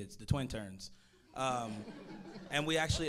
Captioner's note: audience laughing